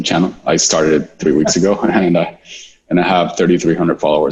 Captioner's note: laughing